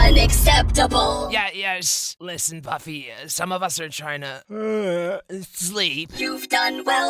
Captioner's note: yawn